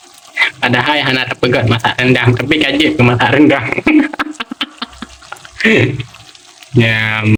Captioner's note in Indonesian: tertawa